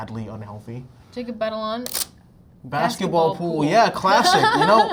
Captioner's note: laughs